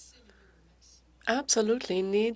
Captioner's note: speaking French